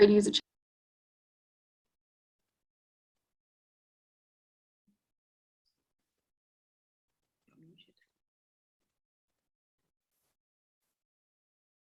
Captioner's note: no sound